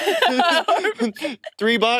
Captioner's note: participants laughing